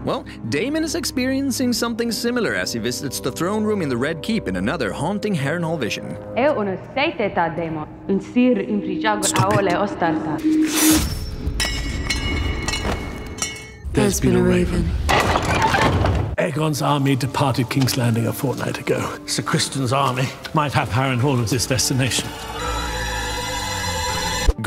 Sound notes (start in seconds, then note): 15.0 door opens